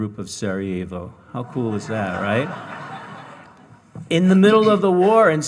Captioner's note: audience laughing